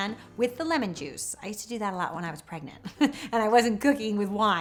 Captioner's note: chuckles